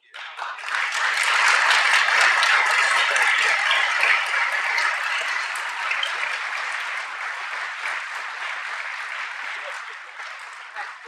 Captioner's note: applause